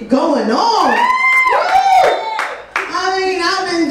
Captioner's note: audience cheers